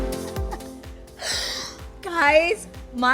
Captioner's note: laughing